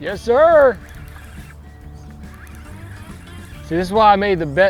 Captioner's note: reel whirring